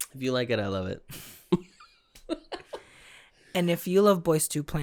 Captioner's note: chuckling